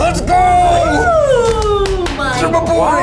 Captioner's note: cheers